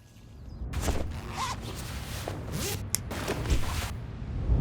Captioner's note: zipper hissing